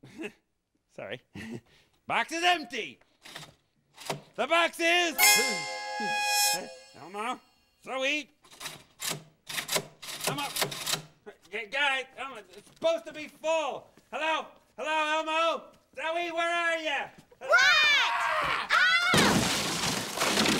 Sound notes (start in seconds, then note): 5.2 dramatic chime; 17.4 screams